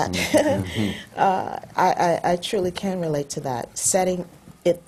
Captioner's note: laughs